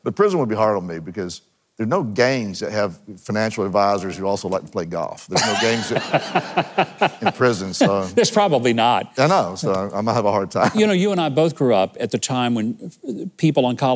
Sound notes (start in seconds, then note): 5.3 people laughing